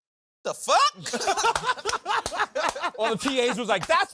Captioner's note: laughing